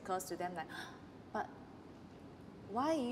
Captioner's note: gasp